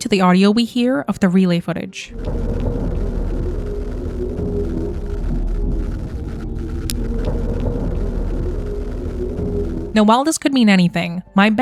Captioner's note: deep droning sound playing